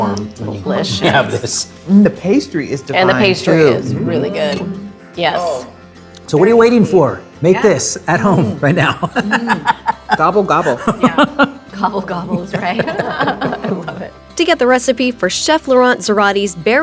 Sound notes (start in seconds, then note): 10.6 laughing; 12.2 group laughing